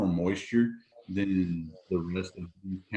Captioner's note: audio is choppy